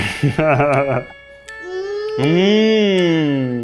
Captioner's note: Ned laughs